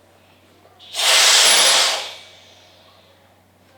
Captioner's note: air hisses